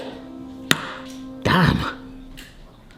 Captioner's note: torch bangs